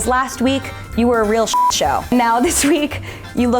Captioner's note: beep